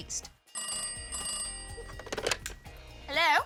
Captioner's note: phone rings